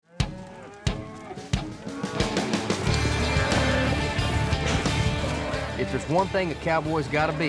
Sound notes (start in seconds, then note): 1.7 cows mooing